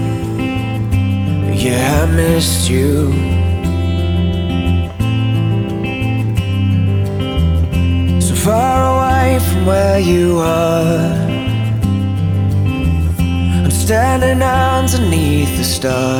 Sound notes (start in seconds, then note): 3.5 nervous